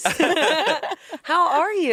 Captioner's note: everyone laughs